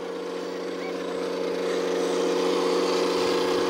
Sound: engine roars

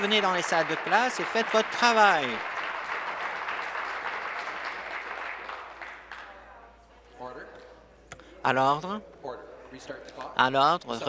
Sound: applause

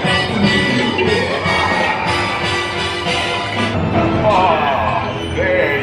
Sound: evil laughter

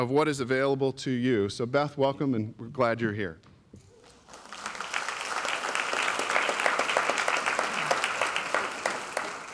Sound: applause

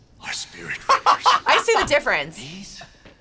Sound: laughs

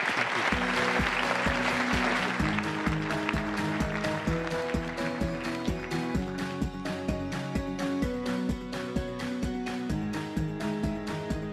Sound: applause

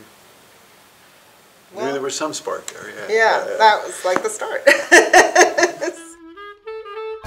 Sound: laughing

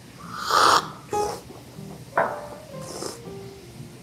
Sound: slurping

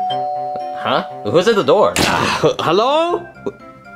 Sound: door bell ringing; upbeat music; groaning

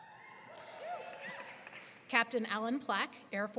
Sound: audience cheering

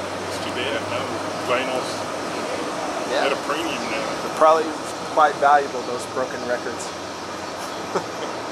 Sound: laughing

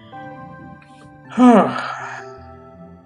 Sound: sighs

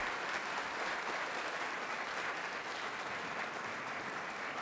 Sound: audience applauds

